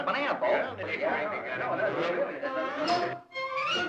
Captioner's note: indistinct chatter